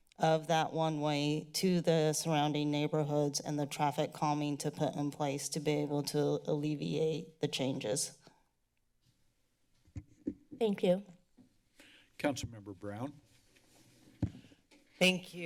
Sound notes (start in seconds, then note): 8.4 silence; 9.9 mic thump